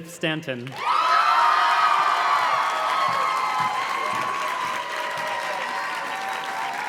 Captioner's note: audience cheers and claps